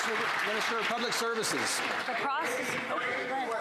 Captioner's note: some Applause